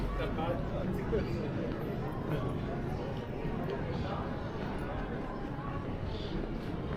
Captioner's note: people chattering